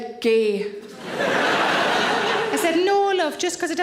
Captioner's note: audience laughing